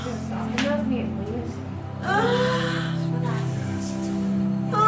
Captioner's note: moaning